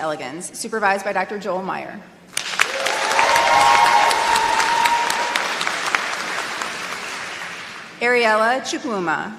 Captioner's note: applause